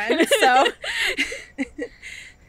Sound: laughing

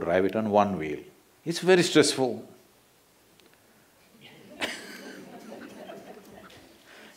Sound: laughter

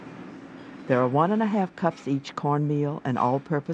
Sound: voiceover

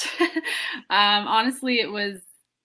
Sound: laughs

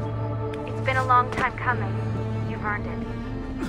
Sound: Lucy through radio

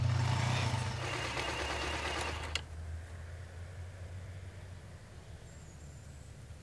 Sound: phone vibrates

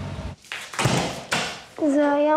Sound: door closing

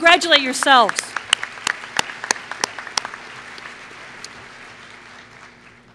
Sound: applause

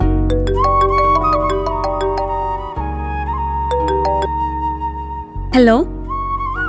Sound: phone rings

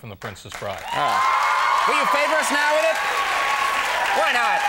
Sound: audience cheers

